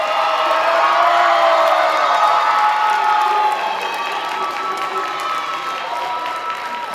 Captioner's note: loud audience applause; sustained audience cheers